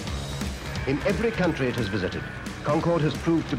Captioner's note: radio voice